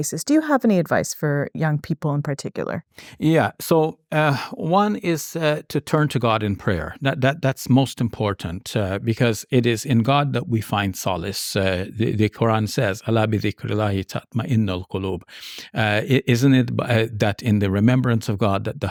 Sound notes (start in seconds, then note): 12.5 speaking in foreign language